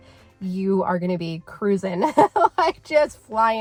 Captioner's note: laughing